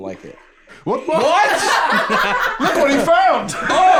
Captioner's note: scattered laughter